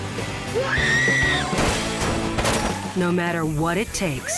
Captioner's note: screaming